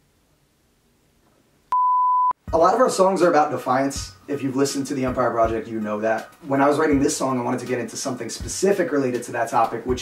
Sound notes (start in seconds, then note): 1.7 beeping